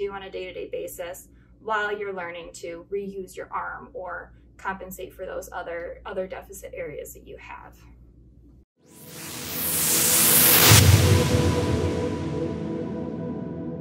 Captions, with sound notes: on a day-to-day basis while you're learning to reuse your arm or compensate for those other deficit areas that you have. (whooshing)